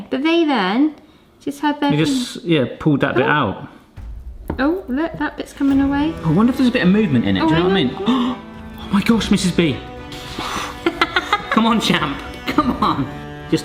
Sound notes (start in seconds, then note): 10.8 laughing